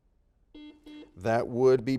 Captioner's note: buzzer dings